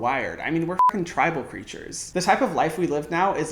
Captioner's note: beep